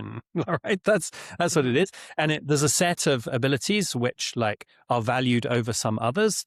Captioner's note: chuckles